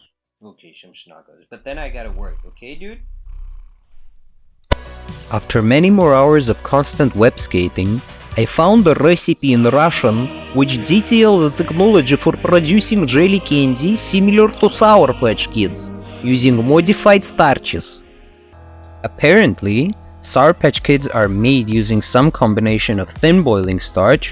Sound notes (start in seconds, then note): 8.3 in Russian accent